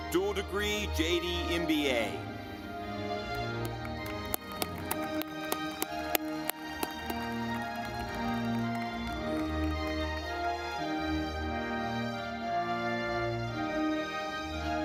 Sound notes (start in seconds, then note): 3.2 audience clapping